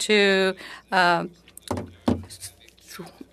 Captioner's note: speaking French